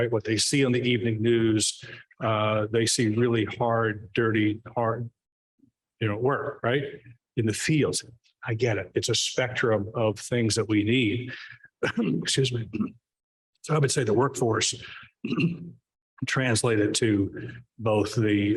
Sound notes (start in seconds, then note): 11.8 coughs